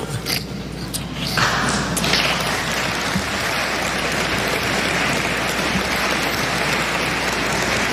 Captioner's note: applause